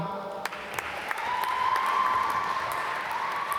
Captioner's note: applause